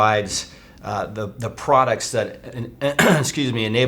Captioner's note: clears throat